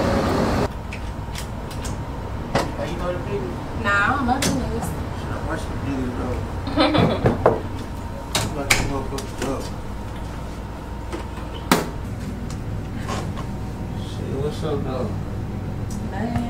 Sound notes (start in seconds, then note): 3.1 couple chatting; 6.6 woman giggling